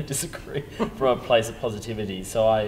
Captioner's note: laughter